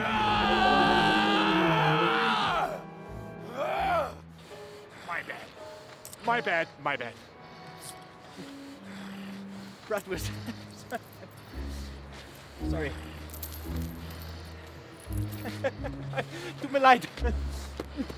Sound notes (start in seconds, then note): 0.0 roars; 4.7 foreign language